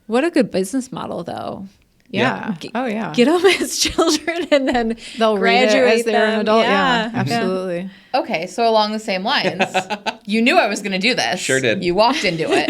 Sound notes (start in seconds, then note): 9.4 laughs